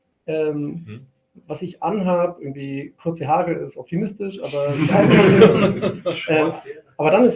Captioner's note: laugh